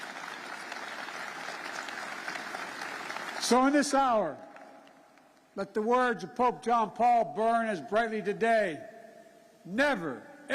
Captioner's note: applause